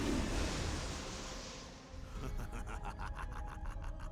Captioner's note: laughs